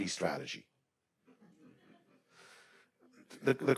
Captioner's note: attendees laughing